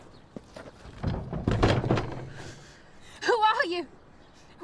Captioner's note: woman thuds